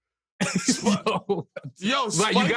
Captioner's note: laughing